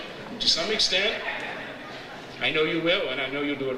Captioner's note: audience laughs